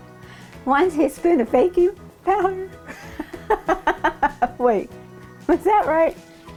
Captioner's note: laughing